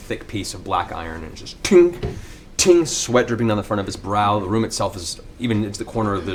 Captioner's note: ting ting